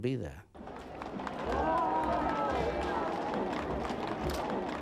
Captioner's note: crowd cheering